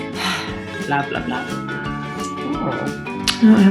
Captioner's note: sighs